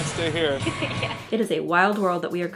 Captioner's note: laughs